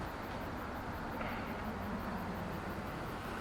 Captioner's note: crickets chirping